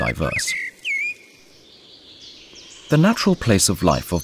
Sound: sounds of nature

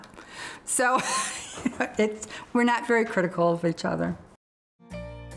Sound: laughing; upbeat music

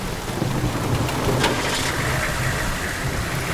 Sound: engine starts

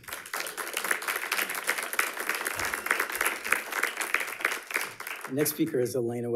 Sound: audience applauding

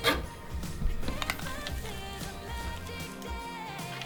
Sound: biting

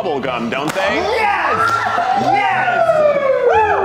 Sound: contestants cheer

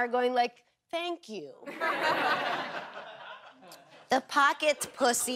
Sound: audience laughter

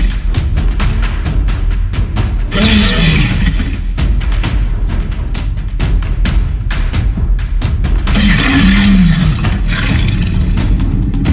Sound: tense music; tyrannosaurus Rex growling

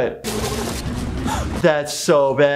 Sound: flailing water

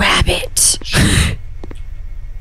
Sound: titters

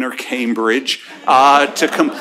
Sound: laughter

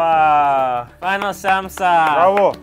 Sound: clapping

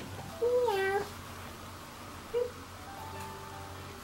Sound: meows

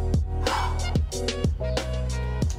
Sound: exhales forcefully; chill music

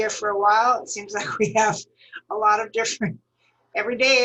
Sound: laughter

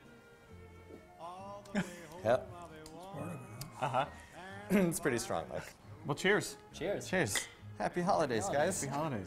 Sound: laughter

